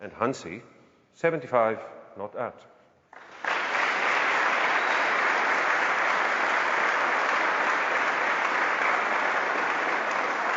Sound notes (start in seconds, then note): 3.1 clapping